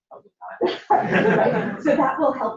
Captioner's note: laughter